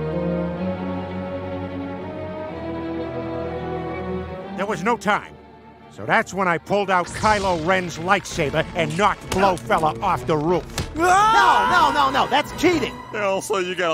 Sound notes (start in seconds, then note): 10.9 screams